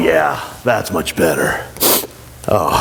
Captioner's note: sniffle